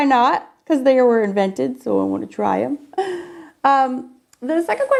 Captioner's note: laughs